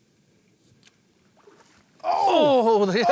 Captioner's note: water splashes